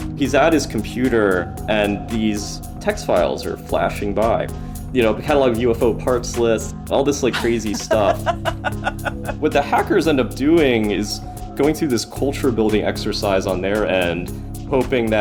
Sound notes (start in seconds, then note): 7.3 laughs